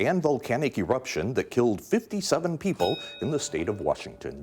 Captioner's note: bell dinging